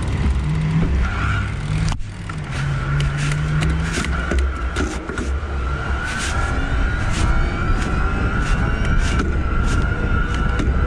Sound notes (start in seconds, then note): 3.8 motor whirring